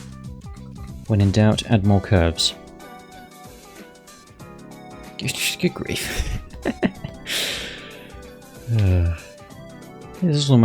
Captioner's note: chuckles